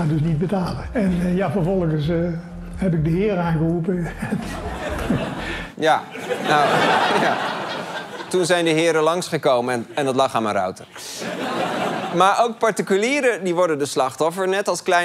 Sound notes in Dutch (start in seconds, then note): 6.0 gelach